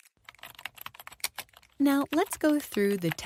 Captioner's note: keyboard typing